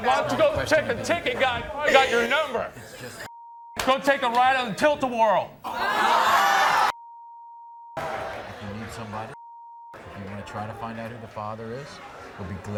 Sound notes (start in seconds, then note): 5.6 audience exclaims